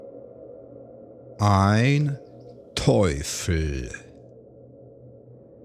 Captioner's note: german